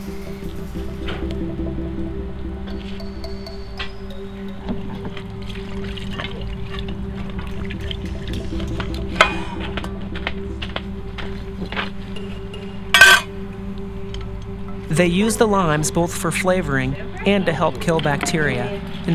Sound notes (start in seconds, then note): 4.7 water pouring; 8.8 cutting; 12.9 knife clanks